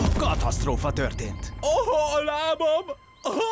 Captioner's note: gasps